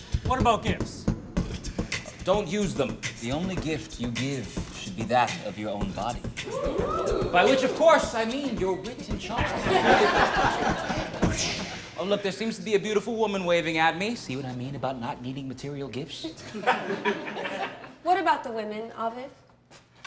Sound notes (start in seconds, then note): 6.4 crowd; 9.3 laughter; 16.2 laughter